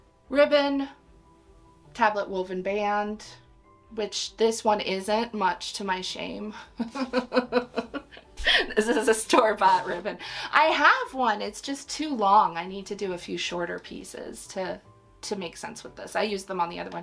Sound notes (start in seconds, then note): 6.8 laughs